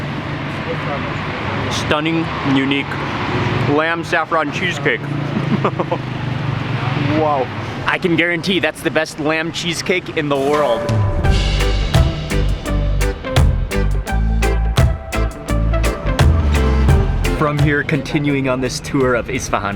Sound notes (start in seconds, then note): 5.2 chuckles; 10.4 upbeat music